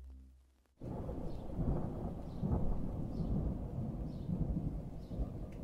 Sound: thunder rumbling

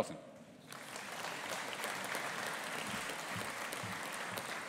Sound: audience applauding

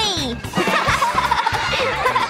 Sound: laughing

